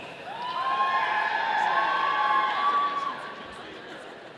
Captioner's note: audience cheering